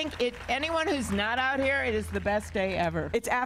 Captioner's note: applause